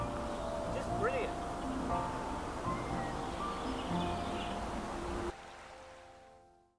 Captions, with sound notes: Just brilliant. (slow music) (birds chirping)